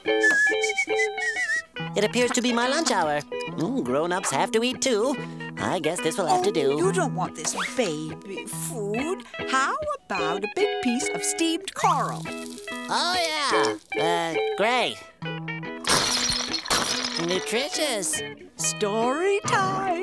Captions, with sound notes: [whistling] It appears to be my lunch hour. Grownups have to eat to. I guess this will have to do. You don't want this baby food. How about a big piece of steamed coral? Oh yeah, uh... great. [shattering] Nutritious.